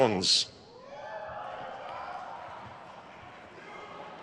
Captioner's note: crowd cheers